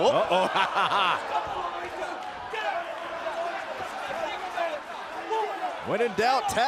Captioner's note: laughs